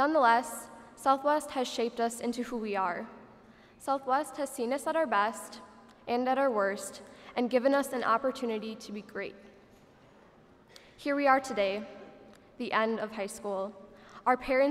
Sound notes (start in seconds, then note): none